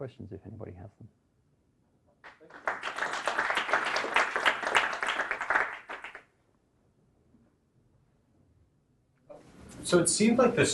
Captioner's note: clapping